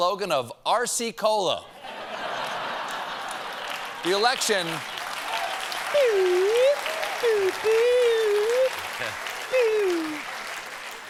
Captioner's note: laughter; applause